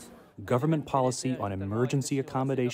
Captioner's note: through translator